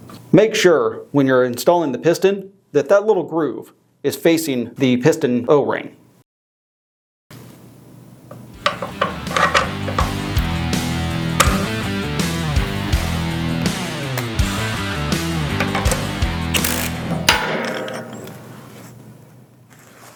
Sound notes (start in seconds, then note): 8.1 metal clanging and sliding; 17.0 metal clang